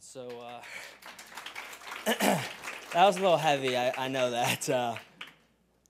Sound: applause

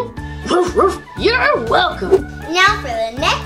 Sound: dog barking

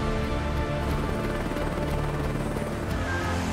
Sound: blades whirring

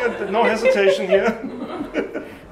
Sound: laughing

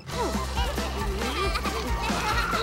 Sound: laughing

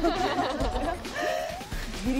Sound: calming breath and focusing

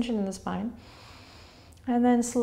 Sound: inhaling

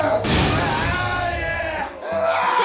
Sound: groaning

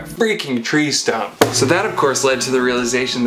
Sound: thump

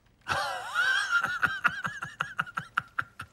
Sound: laughs

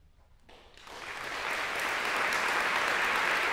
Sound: applause

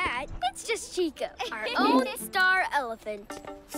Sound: laughs

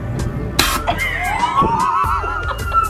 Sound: loud air puff; laughing

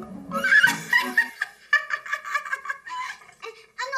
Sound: cackles

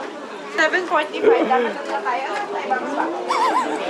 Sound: crazy crowd

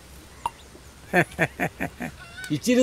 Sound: laughing

